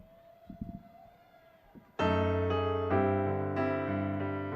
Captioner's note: audience cheering